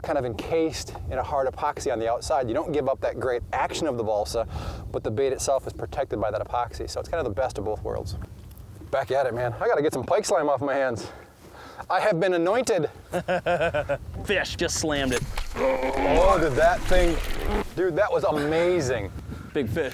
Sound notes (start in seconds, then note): 13.1 laughing